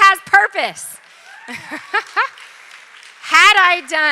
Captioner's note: applause